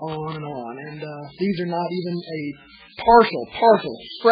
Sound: laughs

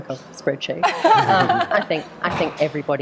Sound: laughing

